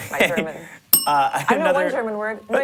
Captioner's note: bell rings